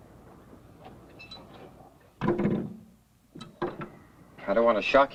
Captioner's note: clank